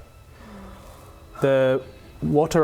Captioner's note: gasp